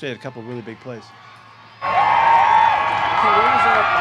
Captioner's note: crowd cheering; crowd cheering drowns out interviewer